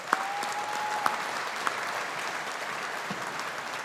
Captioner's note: audience applauding